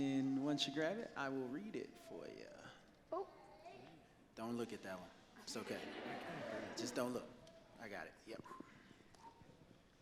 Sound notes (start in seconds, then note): 5.6 audience laughs